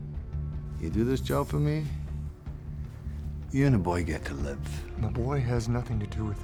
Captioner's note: scottish accent